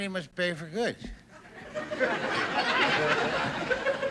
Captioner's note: audience laughing